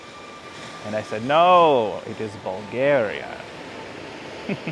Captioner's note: laughs